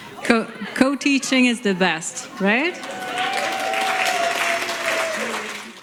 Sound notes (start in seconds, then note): 2.4 applause